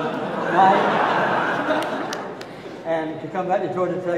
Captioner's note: audience laughing